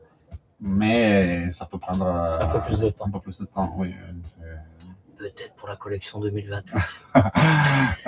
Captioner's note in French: rires